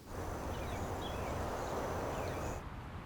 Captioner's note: birds singing about Hamilton